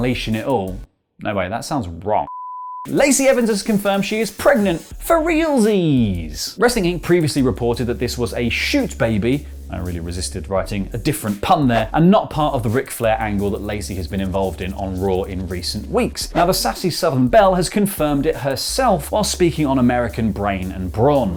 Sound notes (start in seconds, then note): 2.2 TV test card and beep